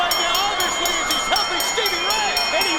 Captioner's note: bell ringing